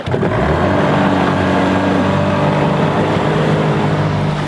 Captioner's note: boat engine revving